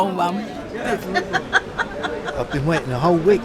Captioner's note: laughter